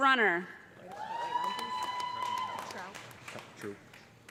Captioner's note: cheers and applause